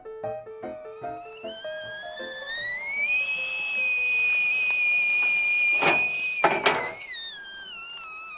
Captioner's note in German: Kessel pfeift